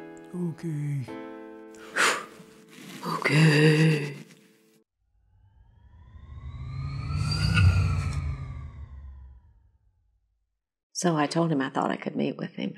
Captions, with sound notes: Okay. (huff) Okay. (swoosh) So I told him I thought I could meet with him.